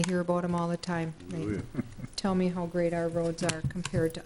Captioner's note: chuckles